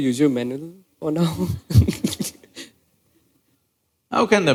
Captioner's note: laughs